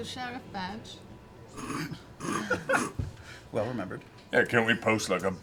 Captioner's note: laughs